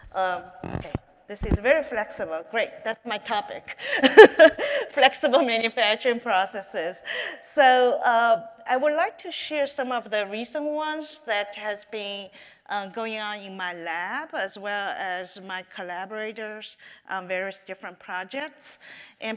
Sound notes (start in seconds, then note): 4.0 laughs